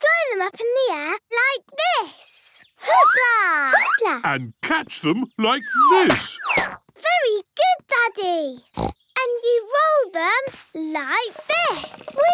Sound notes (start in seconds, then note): 8.6 snorts